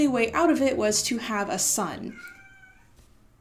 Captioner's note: meow